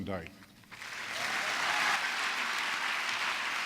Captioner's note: applause